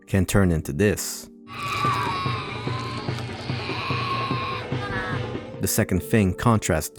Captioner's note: child screaming in pain